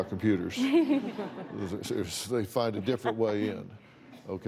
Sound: laughter

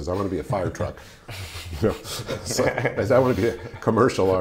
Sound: laughing

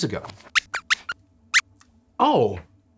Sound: squeaks squeaks

